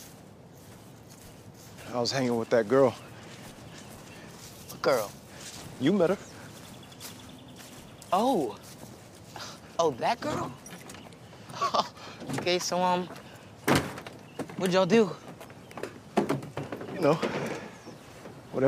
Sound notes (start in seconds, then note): 11.4 laughs